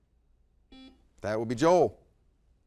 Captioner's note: buzzer beeps